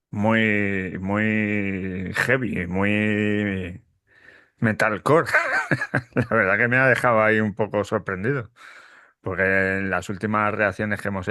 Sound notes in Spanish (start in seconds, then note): 5.2 risas